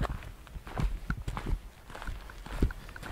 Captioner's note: sound of foosteps